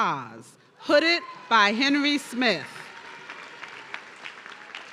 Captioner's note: audience cheering